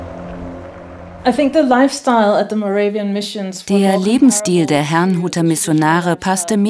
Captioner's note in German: englisch